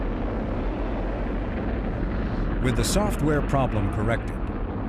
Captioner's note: rocket engines roaring